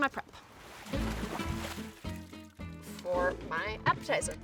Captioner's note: water splashing; upbeat music